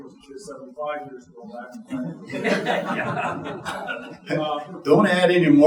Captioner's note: audience chuckling